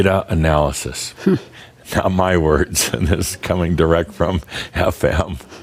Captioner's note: Adamus chuckles